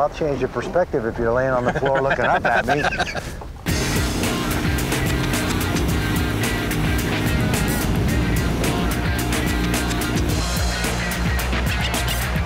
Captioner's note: laughs